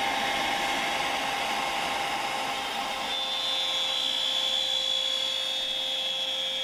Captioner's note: machine drills circular template through wood